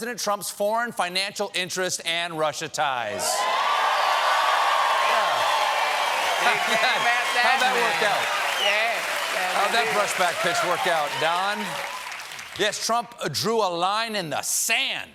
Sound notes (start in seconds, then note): 3.1 cheers and applause